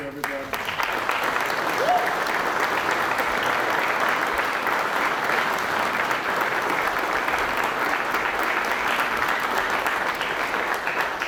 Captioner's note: applause